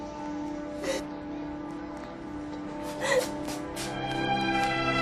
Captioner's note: both crying